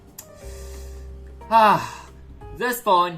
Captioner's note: frustrated sigh